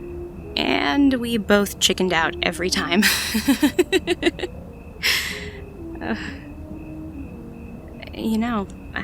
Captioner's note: laughs, then softens